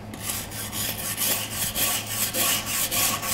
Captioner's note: scratching noises